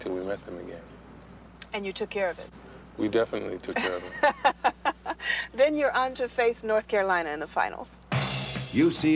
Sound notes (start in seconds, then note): 3.8 laughing